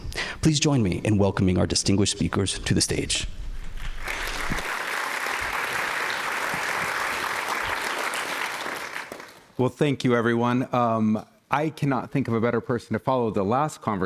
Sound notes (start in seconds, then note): 3.6 applause